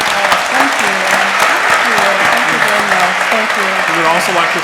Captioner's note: applause